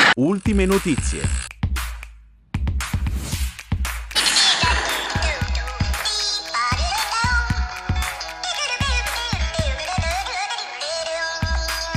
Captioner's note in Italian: Applauso